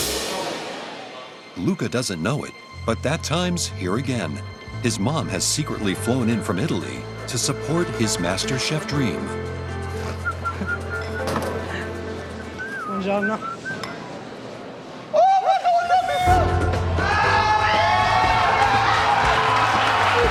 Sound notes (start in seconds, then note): 9.4 Assobios; 16.7 Gritos e aplausos